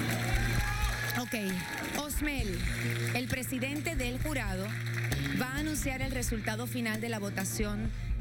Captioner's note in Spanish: aplausos